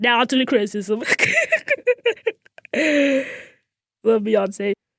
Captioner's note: laughs